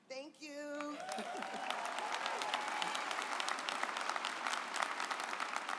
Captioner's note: audience applauds